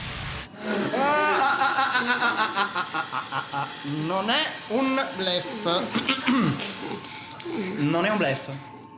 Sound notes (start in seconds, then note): 6.0 clears his throat